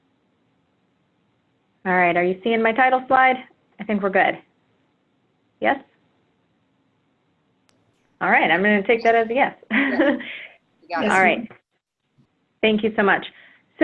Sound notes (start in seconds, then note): 9.6 laugh